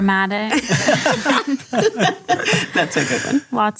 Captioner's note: all laughing